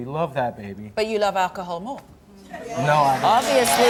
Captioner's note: audience shouting